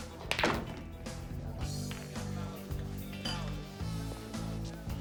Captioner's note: balls clacking